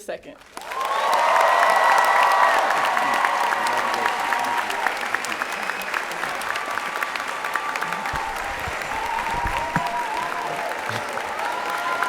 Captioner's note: applause and Cheering